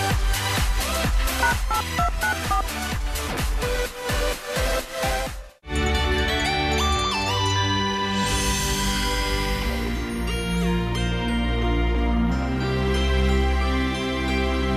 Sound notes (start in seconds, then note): 1.4 dialing sound